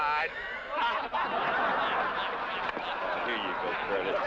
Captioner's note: laughter